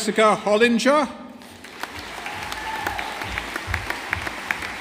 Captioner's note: audience applauding